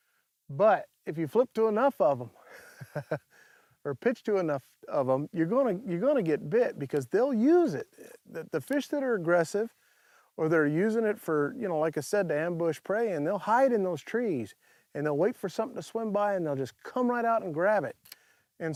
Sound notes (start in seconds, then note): 2.4 chuckles